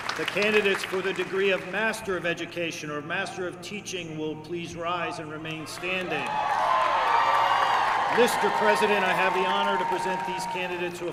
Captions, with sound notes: The candidates for the degree of Master of Education or Master of Teaching will please rise and remain standing. [CHEERING] Mr. President, I have the honor to present these candidates who